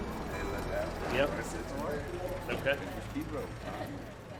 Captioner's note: men chatting